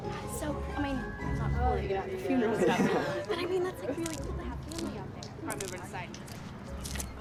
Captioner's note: chattering